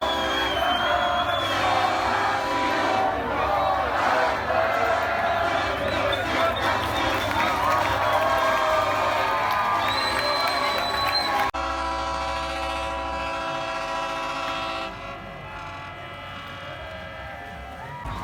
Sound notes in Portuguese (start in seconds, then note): 0.0 torcida, gritos; 10.4 buzinas